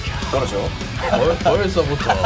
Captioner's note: laughing out loud